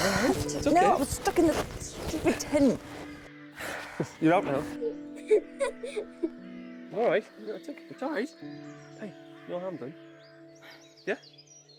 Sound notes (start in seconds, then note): 3.6 sighing; 4.8 both laughing